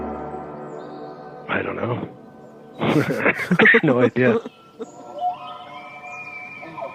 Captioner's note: both laugh